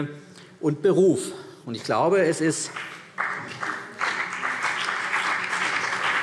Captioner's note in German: Vereinzelter Beifall CDU und BÜNDNIS 90/DIE GRÜNEN